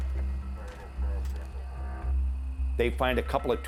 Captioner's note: officer speaking on radio